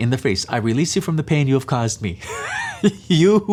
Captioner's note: laughs